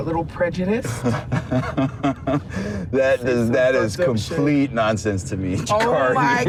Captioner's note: laughs